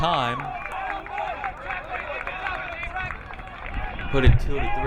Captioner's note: crowd applauding